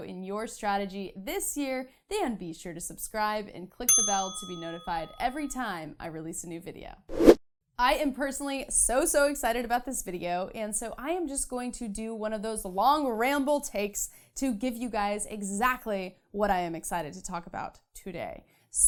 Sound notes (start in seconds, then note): 3.9 bell dings; 7.1 air whooshing